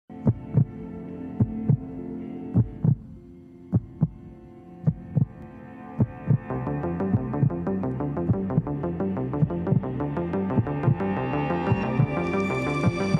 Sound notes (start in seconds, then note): 0.9 dramatic music; 0.9 heart beating